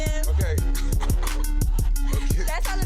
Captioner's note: laughing